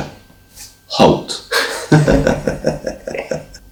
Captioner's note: chuckles